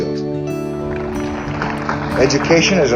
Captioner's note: applause